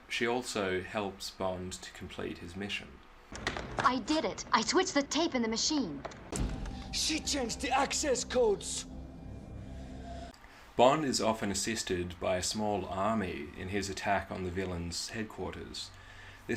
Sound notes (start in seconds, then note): 9.4 heavy breathing